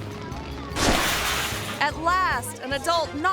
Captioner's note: water splashes